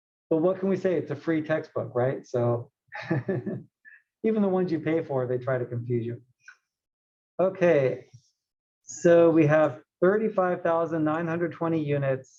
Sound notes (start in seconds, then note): 3.0 laugh